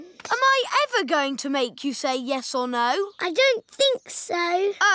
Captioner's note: none